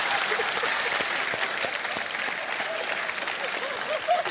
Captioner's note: applause